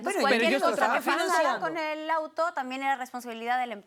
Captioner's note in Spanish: Hablan al unísono